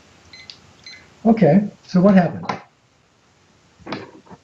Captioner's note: beeping